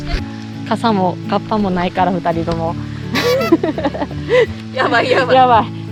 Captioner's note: laughs